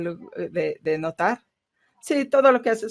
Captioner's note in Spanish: a través de intérprete